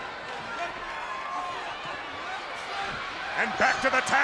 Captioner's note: spectators cheering